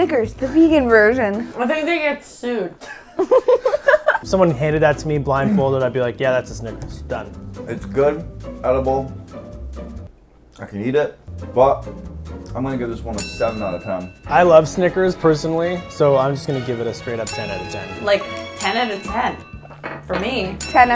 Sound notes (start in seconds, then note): 3.0 laughing